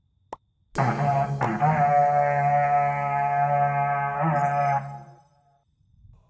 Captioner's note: horn